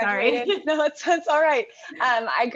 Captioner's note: laugh